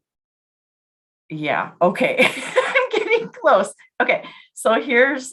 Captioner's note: laughs